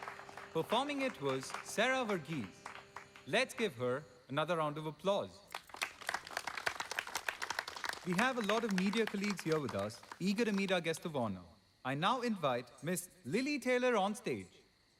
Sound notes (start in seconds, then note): 5.4 audience clapping